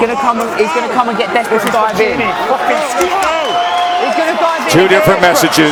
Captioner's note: whistle